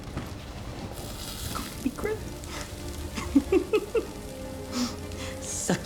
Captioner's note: giggle